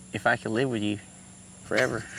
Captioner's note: both chuckle